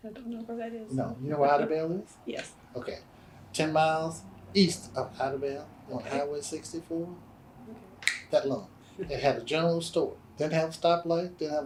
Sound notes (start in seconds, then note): 8.0 snaps fingers